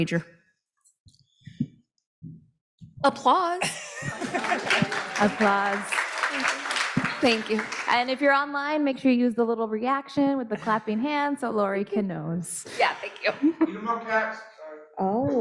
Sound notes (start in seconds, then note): 3.9 audience clapping